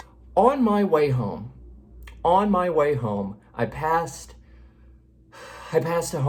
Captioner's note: sighs